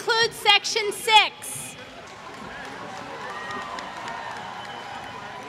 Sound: applause

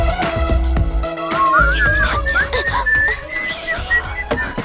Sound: whistles

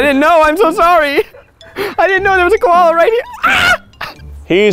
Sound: screams

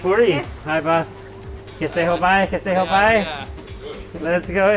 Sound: speaking in foreign language

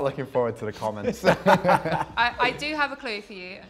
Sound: both laughing

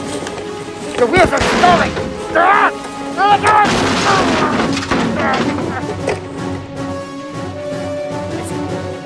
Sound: crash sounds

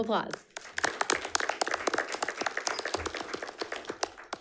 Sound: audience applauds

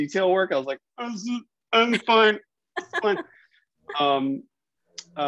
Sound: laughing

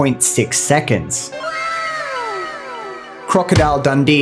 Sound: crowd cheers

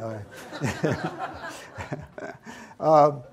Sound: audience laughs

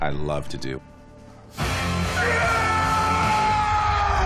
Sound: screams

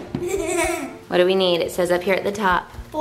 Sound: laughing

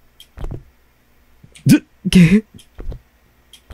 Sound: chuckle

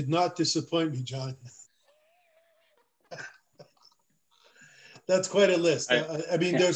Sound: laughter

